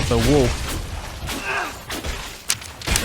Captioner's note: magical Effort Grunt